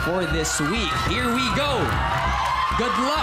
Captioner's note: audience whooping